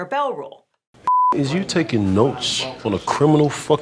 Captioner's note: beep